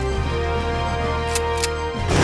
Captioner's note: gun clicks; gunshot bangs